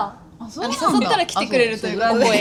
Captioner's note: laughs